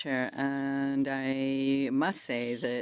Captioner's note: speaking French